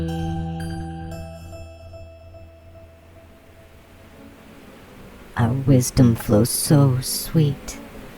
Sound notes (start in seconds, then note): 0.0 music fades out; 1.2 digitized bee swarm, gently undulating white noise fades in; 5.2 The Buzzing voices